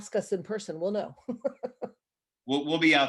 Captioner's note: laughs